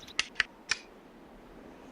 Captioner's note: gun clicks